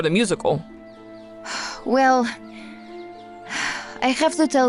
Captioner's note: sighs